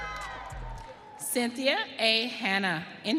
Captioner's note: audience cheering